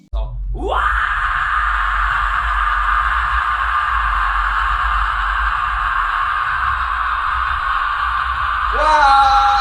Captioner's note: demonic screeching